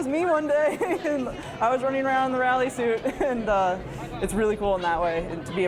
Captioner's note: laughing